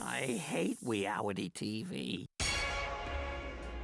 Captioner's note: none